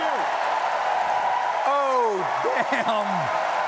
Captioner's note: cheering